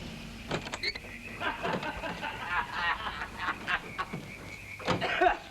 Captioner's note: drunken laughter